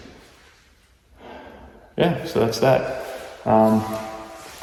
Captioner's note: sighs